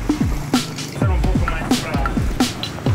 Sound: speaks Portuguese

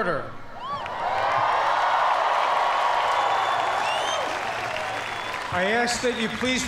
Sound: cheers and applause

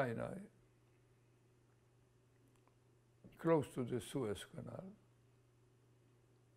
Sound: pauses for 3 seconds

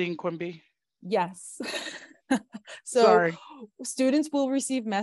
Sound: laughs

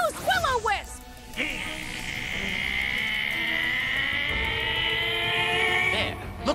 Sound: growling

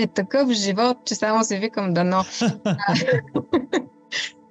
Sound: laughter

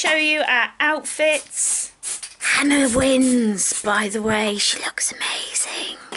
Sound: whispers

